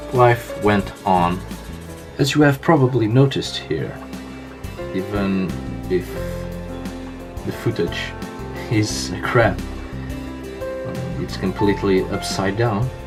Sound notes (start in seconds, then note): none